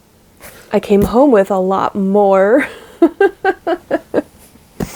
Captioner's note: laughs